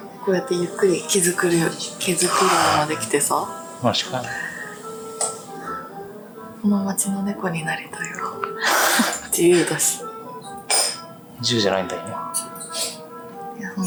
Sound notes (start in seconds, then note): 8.2 laughs